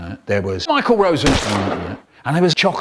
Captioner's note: gunshot